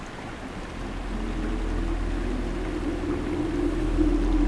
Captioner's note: Water running